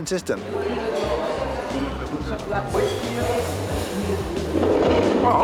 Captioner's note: patrons chattering